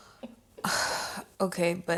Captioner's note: Naomi sighing